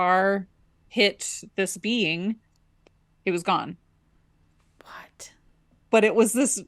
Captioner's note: in a whisper